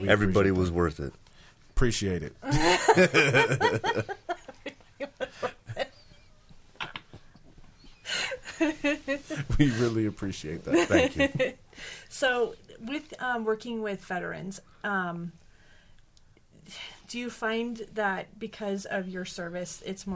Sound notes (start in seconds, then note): 2.5 laughing